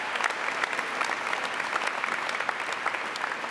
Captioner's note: applause